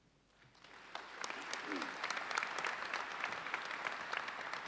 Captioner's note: audience applauds